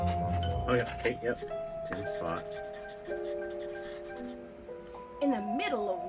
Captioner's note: scratching sounds